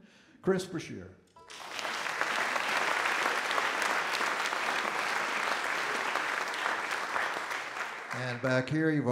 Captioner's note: audience Applause